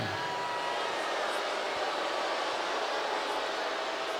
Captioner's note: crowd booing